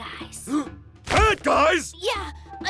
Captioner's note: gasp!